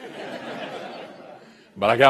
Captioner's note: laughter